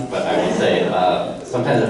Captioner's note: audience laughter